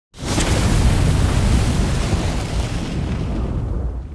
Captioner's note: flames roaring